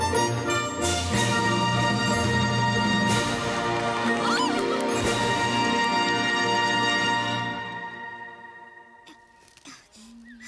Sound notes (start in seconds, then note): 3.8 cheers and Applause